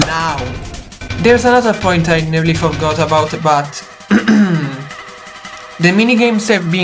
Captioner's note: clears throat